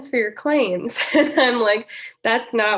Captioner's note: laughter